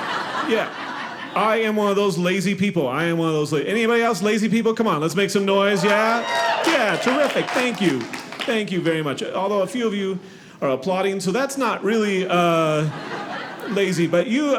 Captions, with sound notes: yeah, I am one of those lazy people. I am one of those, anybody else lazy people? C'mon, let's make some noise, yeah? (audience clapping) Yeah, terrific, thank you. Thank you very much, although a few of you applauding so that's not really lazy but you,